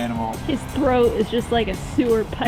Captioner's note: laughs